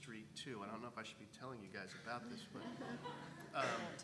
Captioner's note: laugh